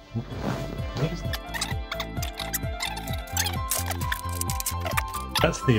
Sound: tape skipping forward

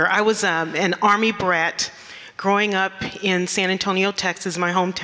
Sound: none

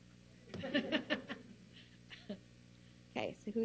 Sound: laughing

